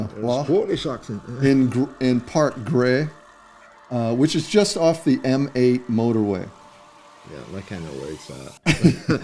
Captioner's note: laughter